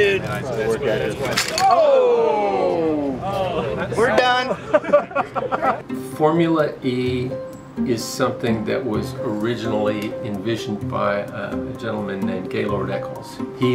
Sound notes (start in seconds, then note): 2.9 laugh